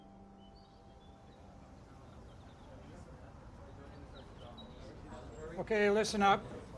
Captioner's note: birds chirping